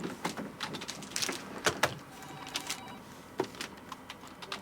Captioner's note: phone ringing